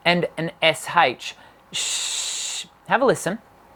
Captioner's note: hissing; hissing